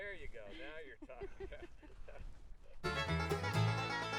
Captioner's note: laughter; fast-paced country music